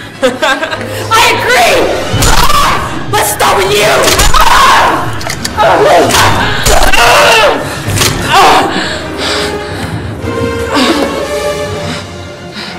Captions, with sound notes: - I agree. Let's start with you. (Nicole screams) (Nicole groaning) (dramatic music)